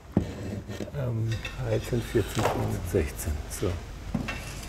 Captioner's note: quietly